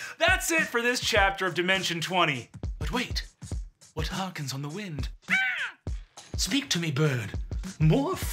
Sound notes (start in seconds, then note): 5.2 mimics bird cawing